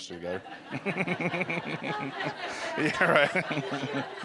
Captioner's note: laughter